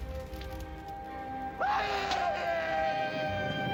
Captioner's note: crackling; Grovelhog screaming